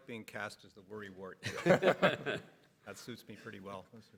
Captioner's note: everybody laughs